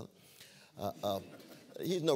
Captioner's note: laughter